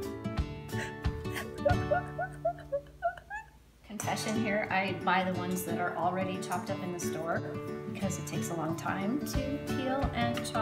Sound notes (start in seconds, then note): 1.3 odd, seal-like crying